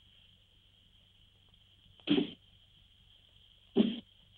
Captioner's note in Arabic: صوت السهام